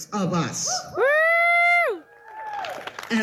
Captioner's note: audience cheers